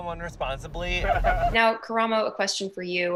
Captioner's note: laughing